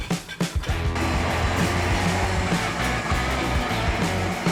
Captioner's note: bright upbeat music; winch rumbling